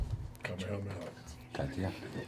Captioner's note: quietly